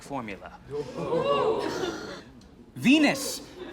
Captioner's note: crowd